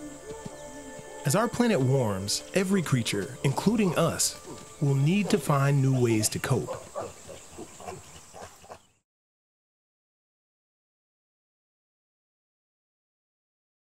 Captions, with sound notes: As our planet warms, every creature--including us-- will need to find new ways to cope. [Chimps grunting]